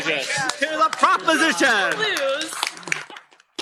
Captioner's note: cheering, applause